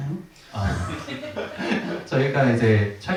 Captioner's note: audience laughter